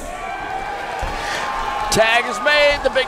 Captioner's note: crowd cheering